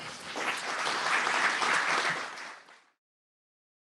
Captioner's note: applause